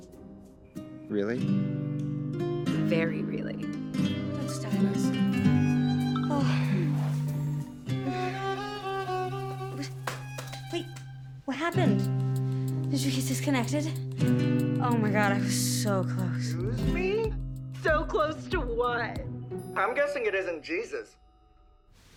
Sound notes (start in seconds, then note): 5.4 phone Beeping